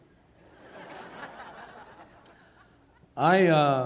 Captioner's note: audience laughing